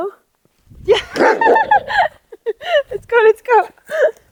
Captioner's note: laughs; Vilk barks